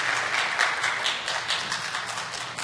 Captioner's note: applause